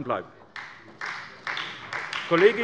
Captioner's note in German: Beifall bei Abgeordneten der SPD